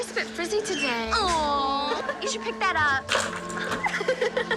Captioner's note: laughing